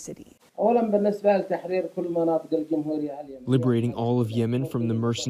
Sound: through translator

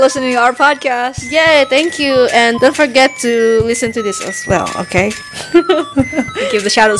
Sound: laughs

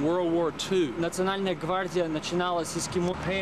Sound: russian speech

